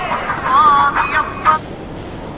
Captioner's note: mobile ringing